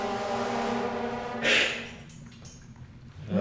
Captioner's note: hiss